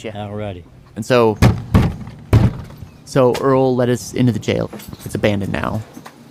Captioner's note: banging on door